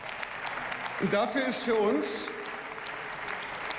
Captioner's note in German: Beifall